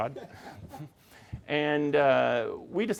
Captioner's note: laughing